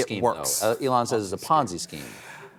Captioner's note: sighs